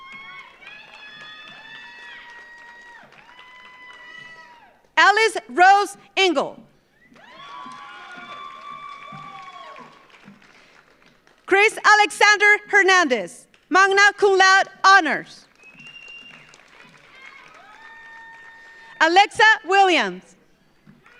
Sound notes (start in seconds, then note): 0.0 audience cheers; 0.0 audience applauds; 7.0 audience cheers; 7.1 audience applauds; 15.4 audience applauds; 15.6 audience cheers; 21.0 audience applauds